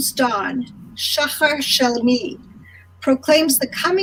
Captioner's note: speaking in foreign language